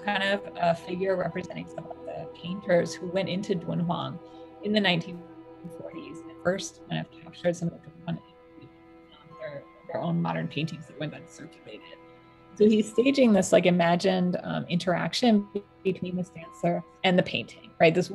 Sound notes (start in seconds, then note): 5.6 audio distortion